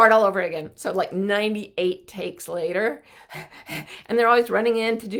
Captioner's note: panting